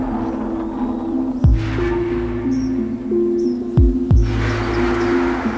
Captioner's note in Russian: щебет птиц